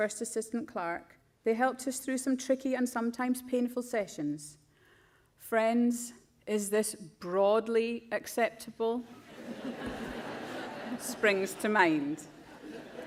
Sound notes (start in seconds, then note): 9.2 crowd laughs